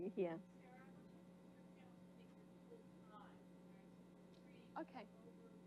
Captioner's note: speaking faintly